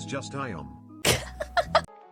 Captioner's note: laughs